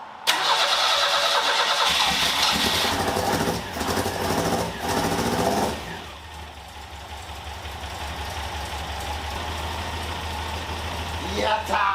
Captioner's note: engine whirring